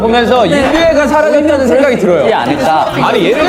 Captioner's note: decibels rising with differing opinions